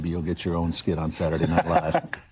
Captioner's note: laughter